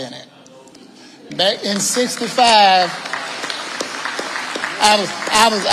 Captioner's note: audience applauding